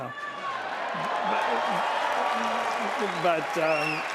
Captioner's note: applause